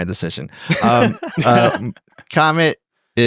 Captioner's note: laughing